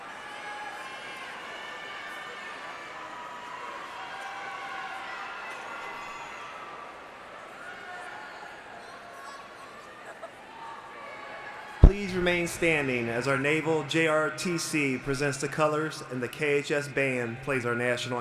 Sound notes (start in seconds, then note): 15.9 cheering